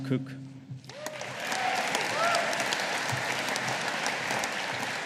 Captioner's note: audience applauding